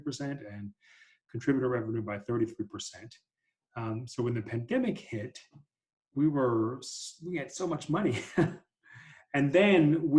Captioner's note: laughter